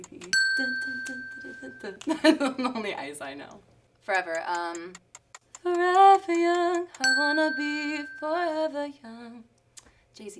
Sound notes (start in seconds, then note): 0.3 bell rings; 2.0 laughter; 4.2 clock ticks; 7.0 bell rings